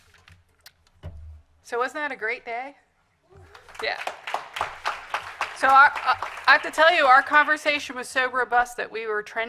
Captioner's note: applause